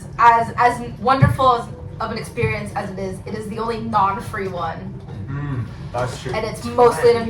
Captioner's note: boooo